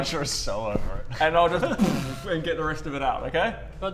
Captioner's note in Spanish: boosh